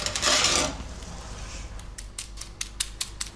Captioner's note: audible cracking